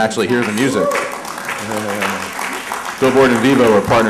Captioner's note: applause